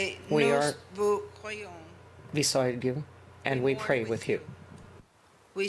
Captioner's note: speaking French